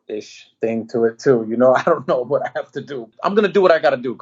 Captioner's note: laughing